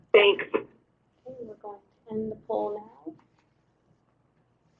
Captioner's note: voiceover